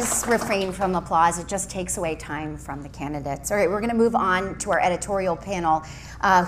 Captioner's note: applause